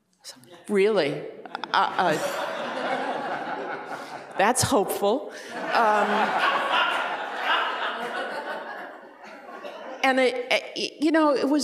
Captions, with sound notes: I was like, really? (laughter) That's hopeful.